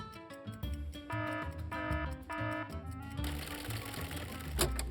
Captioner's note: alarm buzzing